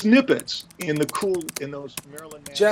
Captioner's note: voice trails off